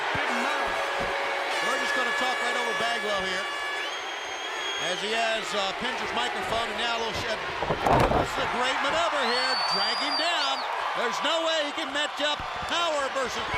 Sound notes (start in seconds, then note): 1.3 crowd cheering; 6.6 crowd cheering; 9.7 crowd cheering